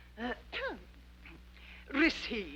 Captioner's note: throat clearing